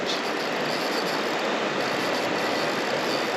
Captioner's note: reel spinning; water flowing